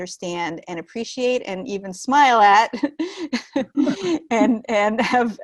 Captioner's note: chuckling